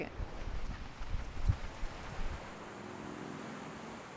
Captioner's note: wind blows